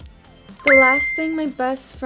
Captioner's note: bell chiming